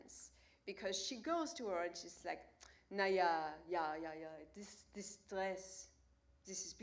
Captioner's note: German language